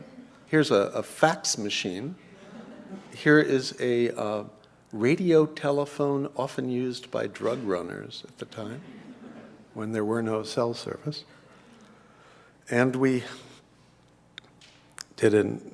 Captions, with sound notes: Here's a, a fax machine. [LAUGH] Here is a radio telephone often used by drug runners at the time [LAUGH] when there were no cell service. And we did an EEG demonstration at a Mind and